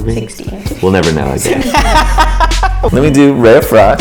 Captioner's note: laughter